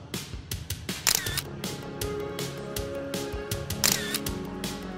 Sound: soft upbeat music; camera clicking

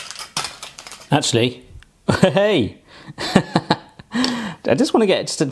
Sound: laughs

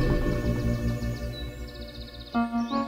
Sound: birdsong

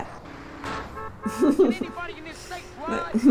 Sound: laughter

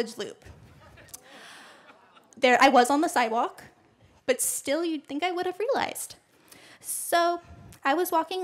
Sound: laughter

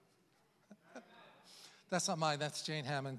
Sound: chuckles

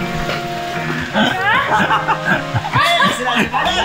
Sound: laughing

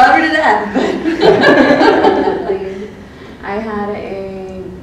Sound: women laugh

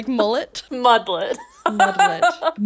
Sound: laughs

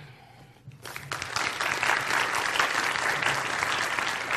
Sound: audience applauds

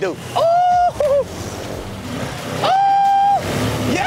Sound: screaming

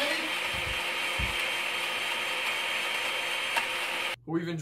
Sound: blender Continues To Run

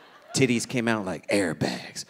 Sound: audience laughing

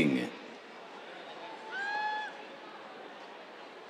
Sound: cheers

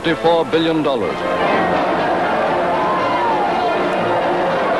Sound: crowd cheering

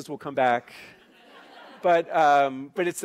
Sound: laughing

